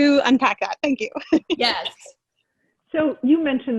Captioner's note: laughs